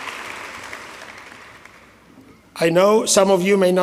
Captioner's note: applause